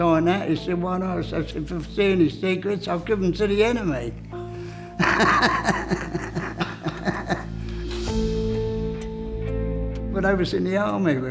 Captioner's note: laughs